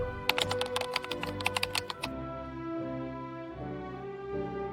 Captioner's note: whooshing sound; keyboard clicking